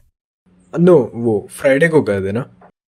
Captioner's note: in Hindi; Hindi